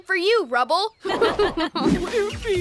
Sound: laughing

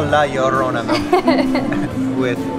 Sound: laughs

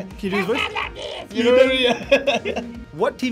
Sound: speaking squeakily

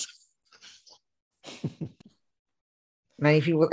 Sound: laughing

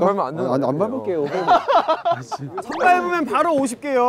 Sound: hahahaha

